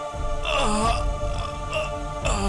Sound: crying in Pain

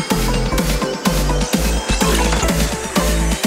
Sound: mech noise

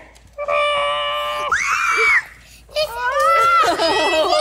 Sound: screaming; laughing

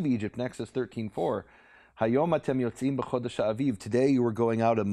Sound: speaking in Hebrew

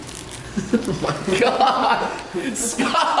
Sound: laughing

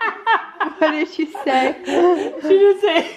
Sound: voiceover

